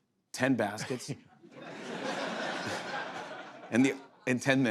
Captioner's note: laughter